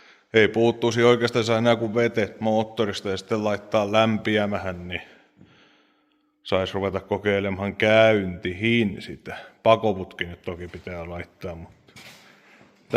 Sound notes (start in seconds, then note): 6.0 sigh